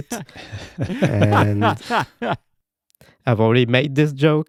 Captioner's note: laughing